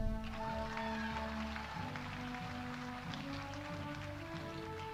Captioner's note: audience applauding